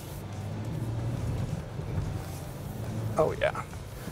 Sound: engine reverberating

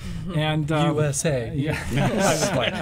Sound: general laughter

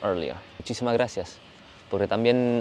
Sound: Spanish

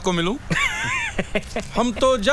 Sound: laughs

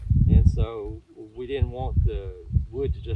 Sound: wind blowing

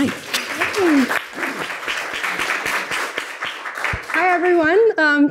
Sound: audience applauding

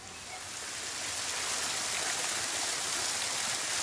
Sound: water splashing

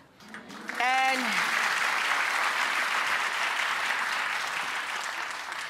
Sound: audience clapping

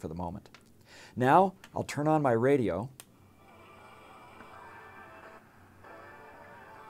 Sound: radio playing

